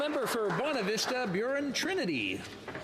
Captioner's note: some Applause